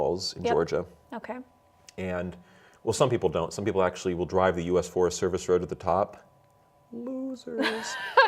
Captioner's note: laughs